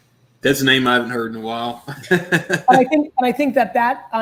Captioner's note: laughs